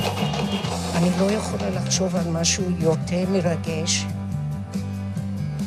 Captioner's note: speaking in foreign language